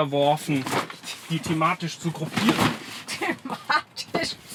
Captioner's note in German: Lacht